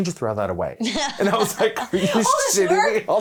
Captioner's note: laughing